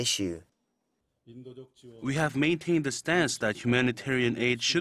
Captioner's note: Korean